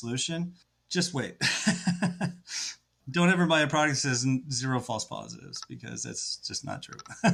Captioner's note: laughs; laughs